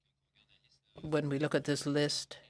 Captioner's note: speaking French